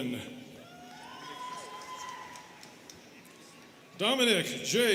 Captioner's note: students cheering